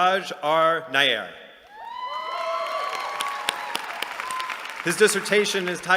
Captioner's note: cheering